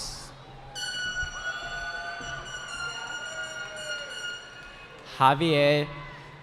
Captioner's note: cheering